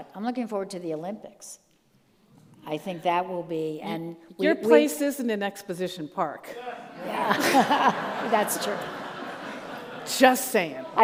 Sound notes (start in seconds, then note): 6.6 audience laughs